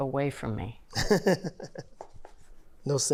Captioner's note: laughing